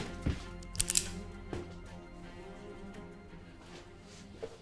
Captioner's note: pistol cocks